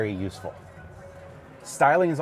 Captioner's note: crowd chattering indistinctly